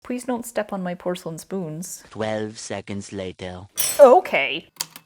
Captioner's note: Spongebob voice; porcelain clinking; A typewriter clicks away, then dings